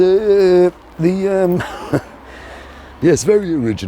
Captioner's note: laughing